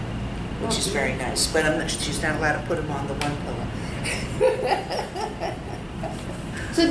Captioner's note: laughs